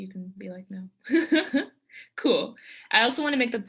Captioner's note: giggles